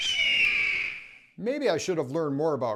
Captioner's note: eagle sound